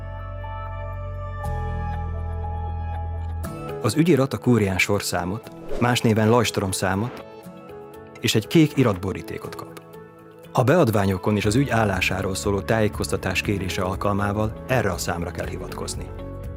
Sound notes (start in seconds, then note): 5.5 swishing sound